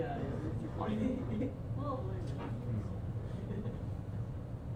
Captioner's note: chuckles